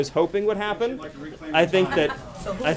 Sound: laughter

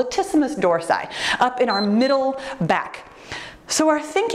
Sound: timer beeps

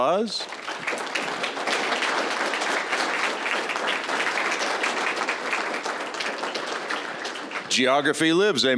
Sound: applause

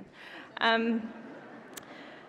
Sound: laughter

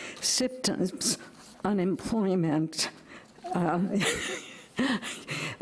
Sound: chuckles

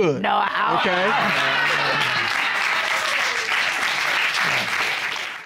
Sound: applause

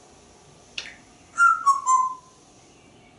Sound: whistling

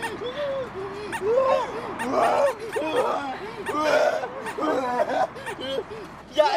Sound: obnoxious vomiting noises

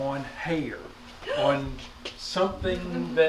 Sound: woman gasping

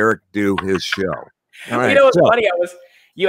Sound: laughing

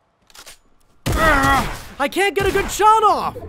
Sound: gun bang

